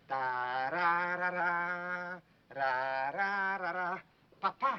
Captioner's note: speaking foreign language; hums " "